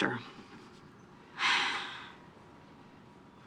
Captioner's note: sighs